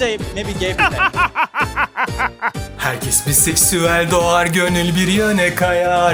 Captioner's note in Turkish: kahkaha